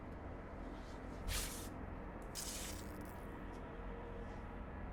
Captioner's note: zapping